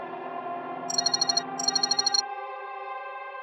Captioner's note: phone call